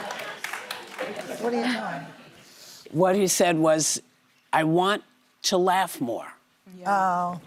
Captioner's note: laughter